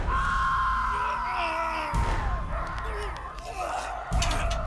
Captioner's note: men screaming; Hugo growling